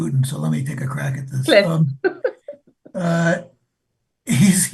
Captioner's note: laughs